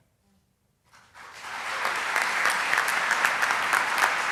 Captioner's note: applause